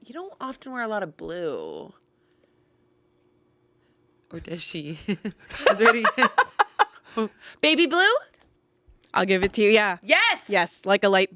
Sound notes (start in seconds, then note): 5.5 laughs